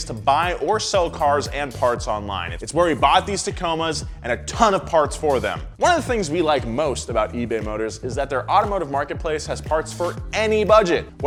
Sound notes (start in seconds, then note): none